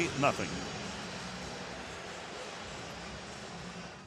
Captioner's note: pa announcement